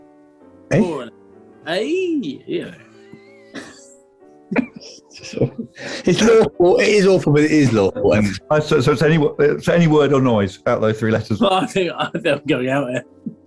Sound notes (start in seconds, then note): 4.5 giggling; 4.5 sniggering